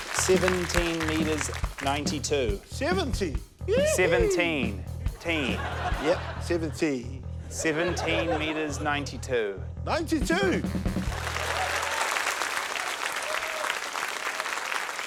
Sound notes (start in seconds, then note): 11.0 cheering, applause